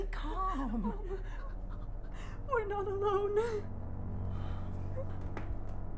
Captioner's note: whimpers; both sighing